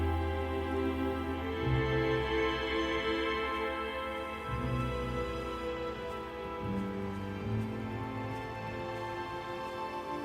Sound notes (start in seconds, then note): 0.1 somber music; 4.9 grass crunching